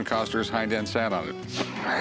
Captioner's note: laughs